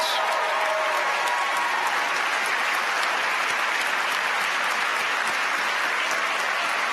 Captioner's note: applause